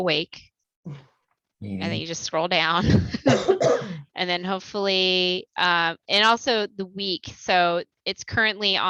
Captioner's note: laughter